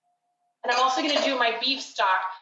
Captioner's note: thunking